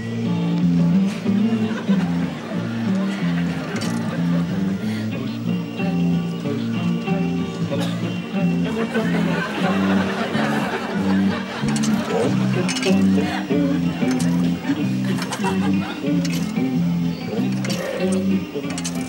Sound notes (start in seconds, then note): 3.6 coin rattling; 11.9 coins rattling